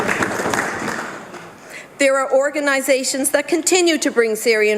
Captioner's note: some Applause